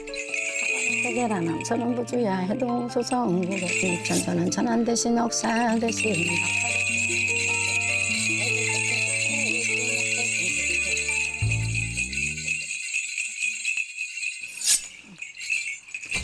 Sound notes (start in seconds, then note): 3.8 the bells begin to shake